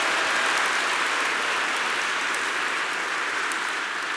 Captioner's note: applause